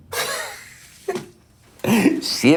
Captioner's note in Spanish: PADRE risa